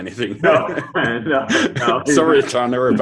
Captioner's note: laughing